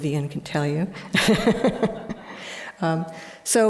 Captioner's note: laughter